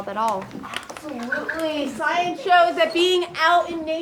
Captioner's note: kids mumbling